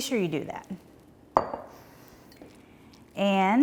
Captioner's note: bowl clatters